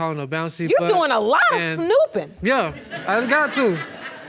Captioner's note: audience laughing